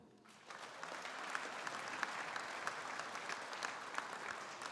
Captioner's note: audience applauding